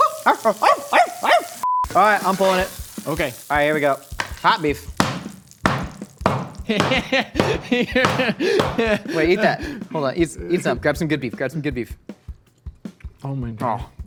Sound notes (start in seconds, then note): 6.5 chopping; 6.6 laughing